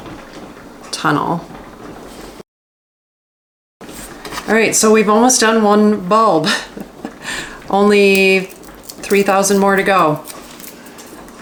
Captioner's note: haha